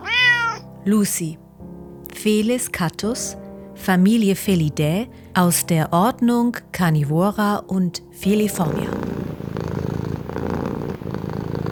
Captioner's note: meow; purring